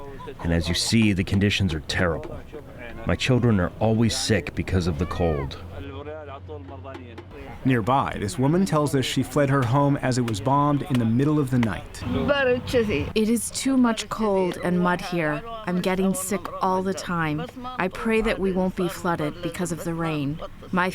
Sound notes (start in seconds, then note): 12.4 through translator